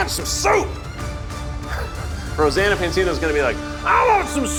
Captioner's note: laughs